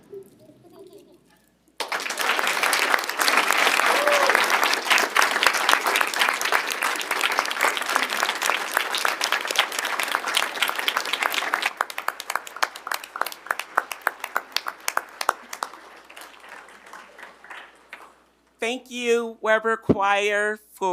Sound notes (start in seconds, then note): 0.0 students giggling; 1.8 audience applauding